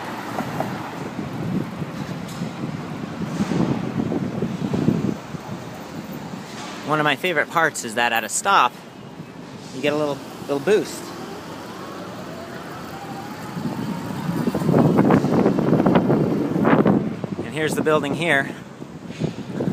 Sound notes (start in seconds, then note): 10.2 motor noise